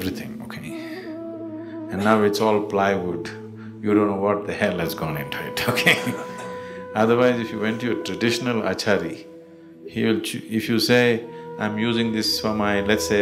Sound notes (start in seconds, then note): 5.6 laughs